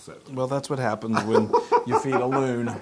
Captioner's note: laugh